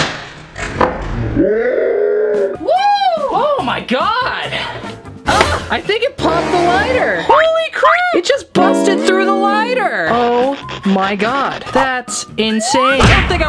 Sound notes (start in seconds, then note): 0.1 slow motion small explosion; 5.6 metal clanks